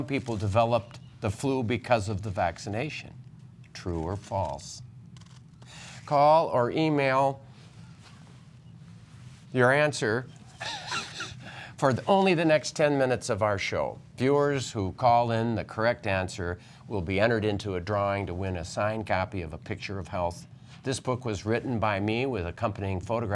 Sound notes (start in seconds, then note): 10.6 laughter